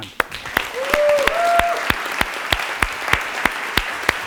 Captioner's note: applause